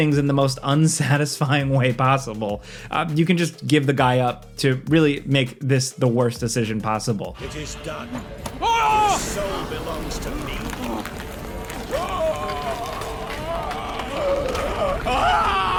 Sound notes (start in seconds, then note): 8.5 Olgierd shouts; 11.7 Olgierd screaming